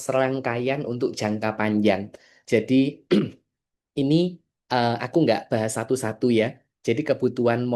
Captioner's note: berdehem